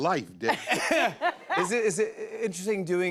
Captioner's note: laughter